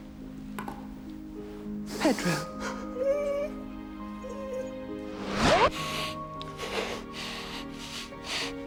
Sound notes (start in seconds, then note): 2.8 dog whining; 5.7 sniffling